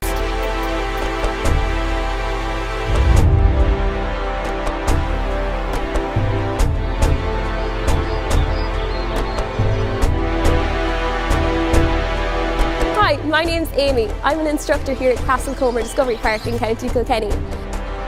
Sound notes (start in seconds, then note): 0.1 cinematic music; 7.2 birds chirping; 17.6 cinematic music continues